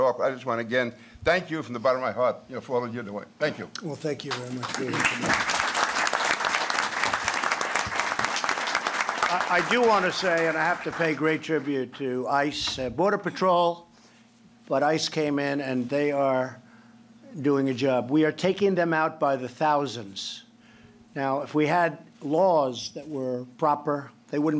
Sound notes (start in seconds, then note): 5.9 applause